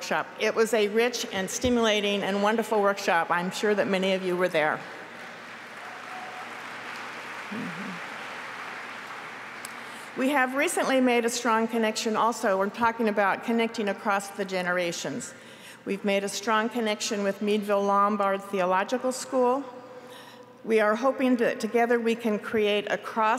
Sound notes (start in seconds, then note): 9.3 applause